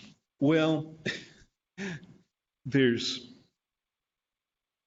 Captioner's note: laughs